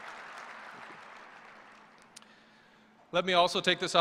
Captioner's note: applause